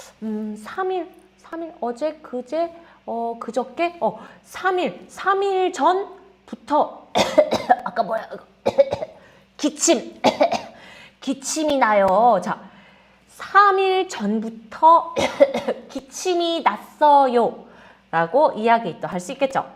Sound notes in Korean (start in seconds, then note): 10.2 기침